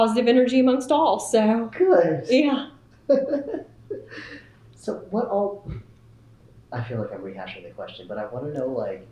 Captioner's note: laughter